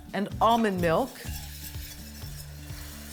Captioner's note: soft scraping